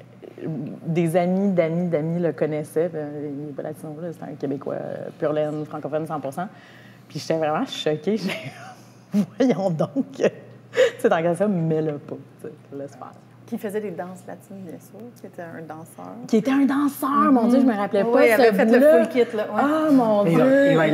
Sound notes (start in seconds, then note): 9.7 laughs